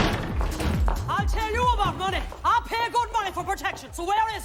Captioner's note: none